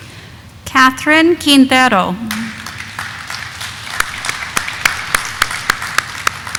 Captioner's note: audience applauding